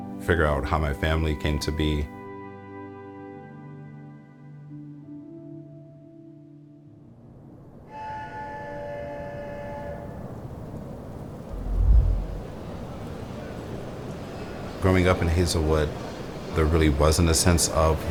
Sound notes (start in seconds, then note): 7.8 factory whistle blows; 11.5 heavy machinery noises